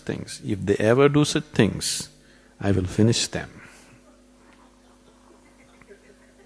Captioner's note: few laugh